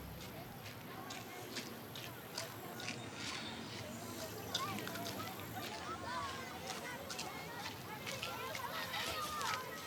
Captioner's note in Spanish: ecos de voces de niños jugando